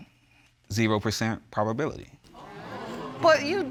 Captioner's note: audience exclaiming